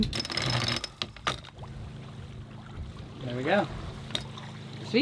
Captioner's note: ratchet clicks